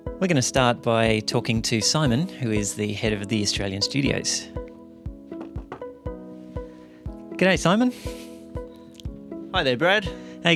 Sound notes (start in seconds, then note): 5.2 knocks